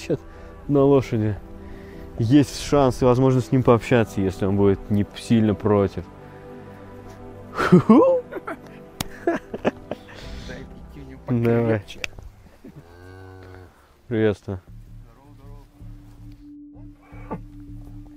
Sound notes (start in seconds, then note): 7.5 laughing